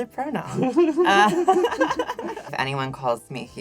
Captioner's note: laughs